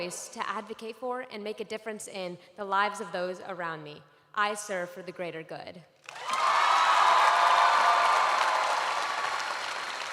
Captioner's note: cheers and applause